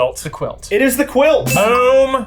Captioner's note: bell dinging